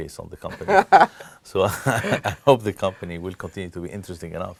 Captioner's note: laugh